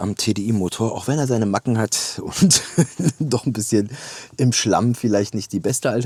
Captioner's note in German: gelächter